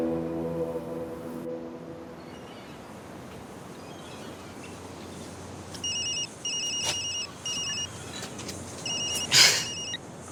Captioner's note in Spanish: Suena el celular